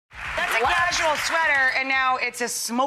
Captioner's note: audience applauds